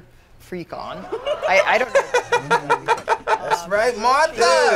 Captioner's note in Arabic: يضحك